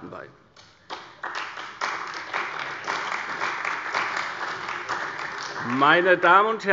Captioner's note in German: Beifall bei der CDU und dem BÜNDNIS 90/DIE GRÜNEN